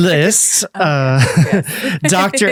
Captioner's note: lauhging